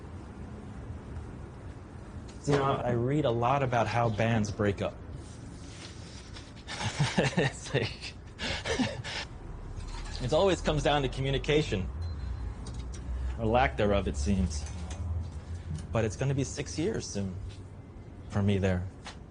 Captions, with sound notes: You know, I read a lot about how bands break up. (laughs) It always comes down to communication, or lack thereof, it seems. But it's gonna be six years soon for me there.